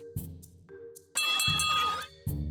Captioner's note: bell ringing